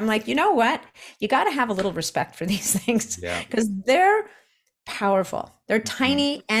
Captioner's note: chuckles